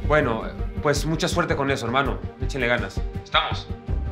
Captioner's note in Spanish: none